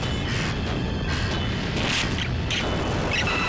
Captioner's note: electrical squealing